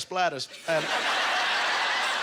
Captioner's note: audience laughter